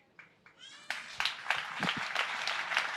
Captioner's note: applause